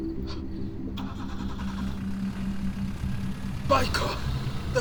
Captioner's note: car engine starting